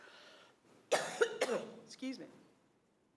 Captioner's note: coughs